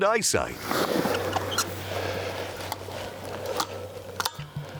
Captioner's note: grass rustling; rifle gear clicking